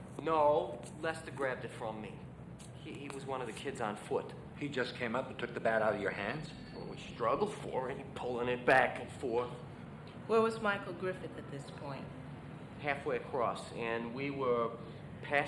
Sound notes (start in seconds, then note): none